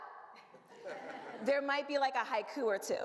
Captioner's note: audience laughs